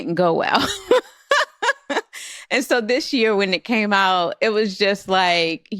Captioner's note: laughs